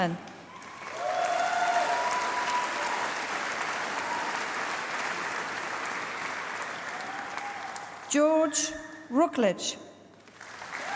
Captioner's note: applause; applause